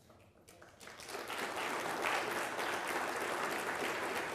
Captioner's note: people applauding